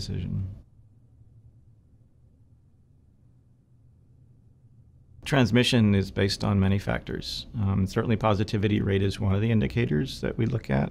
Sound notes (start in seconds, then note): 0.1 silence